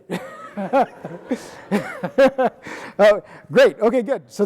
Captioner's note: laughing